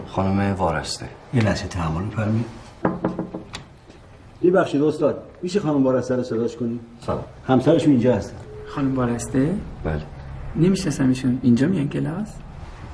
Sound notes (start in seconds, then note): 2.8 knocking